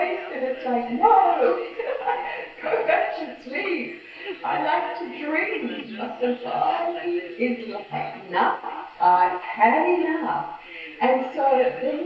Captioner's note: laughs